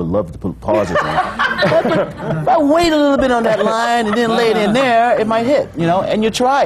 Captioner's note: laughs